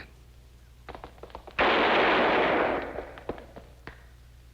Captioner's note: gun firing